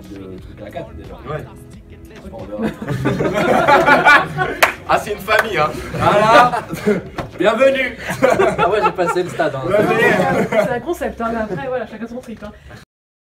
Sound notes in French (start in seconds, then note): 2.6 rires